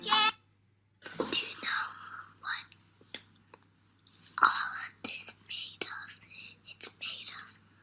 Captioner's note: whispering